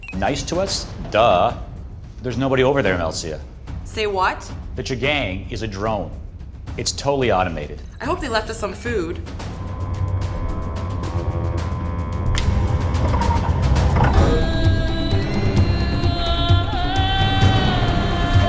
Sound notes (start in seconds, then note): 10.0 machinery humming; 15.9 tense music